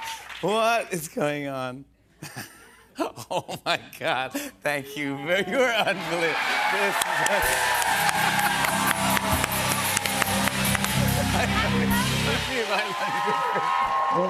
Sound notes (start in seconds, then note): 2.8 laughing; 7.9 cheers and applause